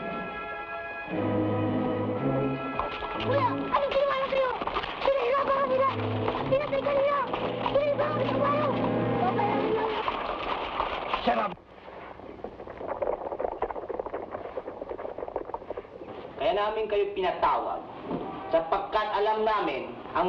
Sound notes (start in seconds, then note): 0.0 somber music; 3.3 boy speaking in Tagalog; 16.6 man speaking in Tagalog